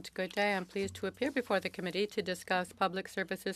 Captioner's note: speaking French